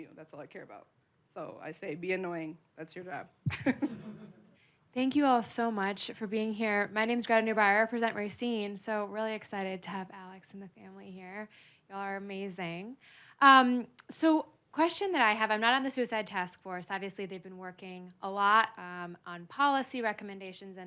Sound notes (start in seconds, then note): 3.5 laughing; 3.5 audience laughing